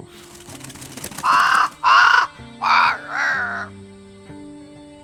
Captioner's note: raven flutters and caws